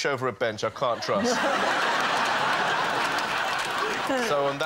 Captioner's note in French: rires